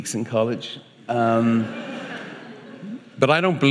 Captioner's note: audience laughing